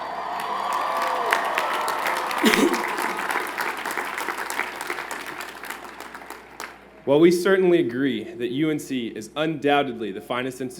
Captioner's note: cheers and Applause